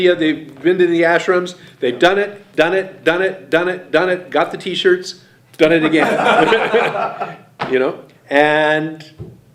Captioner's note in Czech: smích